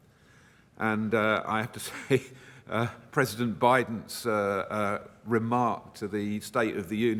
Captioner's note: chuckles